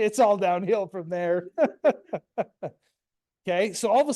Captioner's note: laughs